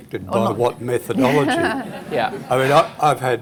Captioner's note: audience Laughter